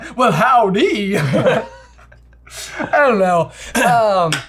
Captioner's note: laughs